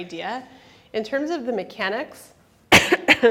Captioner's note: coughs